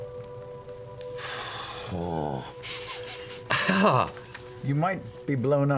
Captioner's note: sighs heavily